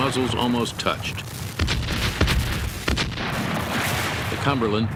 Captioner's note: cannon fire